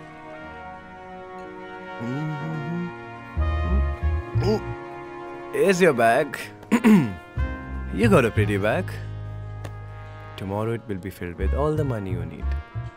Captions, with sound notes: (Humming) (Soft music) - Uh Here's your bag. You've got a pretty bag. Tomorrow, it will be filled with all the money you need.